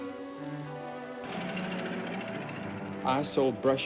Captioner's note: car engine